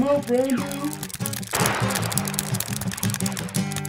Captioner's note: video game blasting; controller keys clicking; lively music